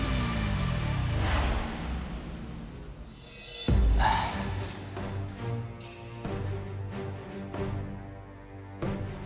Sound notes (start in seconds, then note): 3.9 sighs